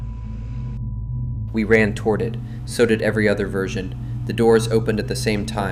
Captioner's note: rapid breathing